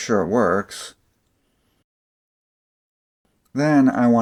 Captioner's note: light tappy sounds